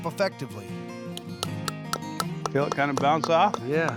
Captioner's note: hammering